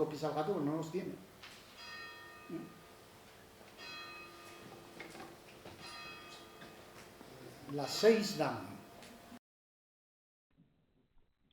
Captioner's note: a clock chimes outside